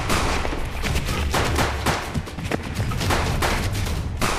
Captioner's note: gunshots pop; tense music